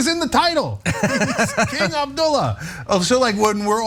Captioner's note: laugh